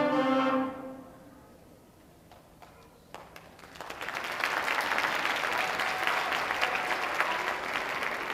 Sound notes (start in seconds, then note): 3.0 audience applauding